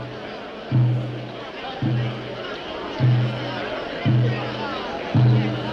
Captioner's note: crowd noise